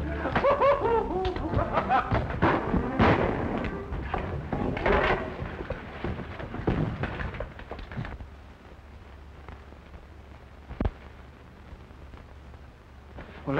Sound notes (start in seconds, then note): 0.0 chuckling; 2.3 gunshots